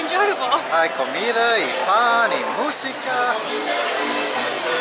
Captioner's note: speaking Spanish